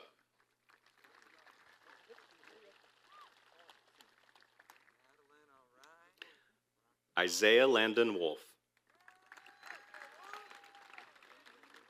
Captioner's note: applause